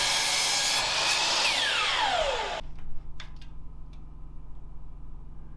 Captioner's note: saw whirring